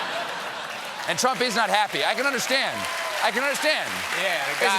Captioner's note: laughter